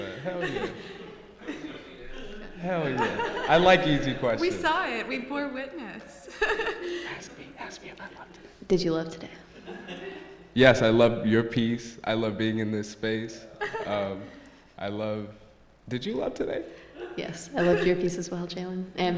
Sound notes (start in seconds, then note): 7.2 whispering